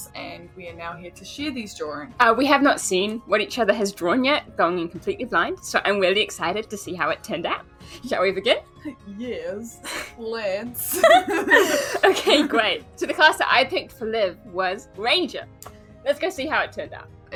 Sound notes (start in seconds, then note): 10.8 both laugh